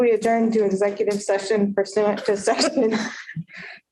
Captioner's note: laughter